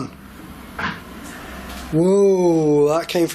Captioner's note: thunk